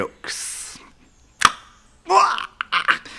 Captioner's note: speaks Yanomami